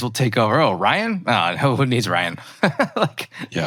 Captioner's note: laughs